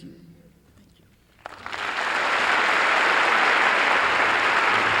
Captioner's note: applause